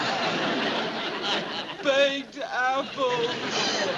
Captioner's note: sobs